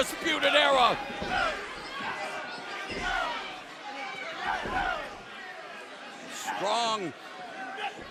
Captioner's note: crowd chatter